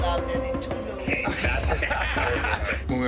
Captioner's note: laughter